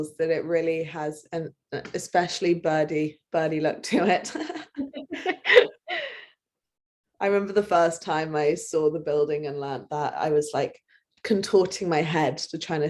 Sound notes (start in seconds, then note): 4.4 laugh